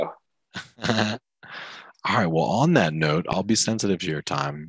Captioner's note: chuckles